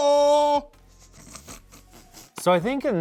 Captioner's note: laughs